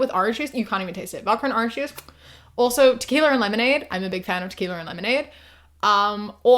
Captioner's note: air kiss